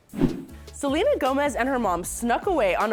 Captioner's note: whoosh